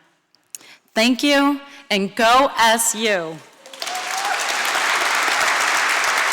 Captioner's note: applause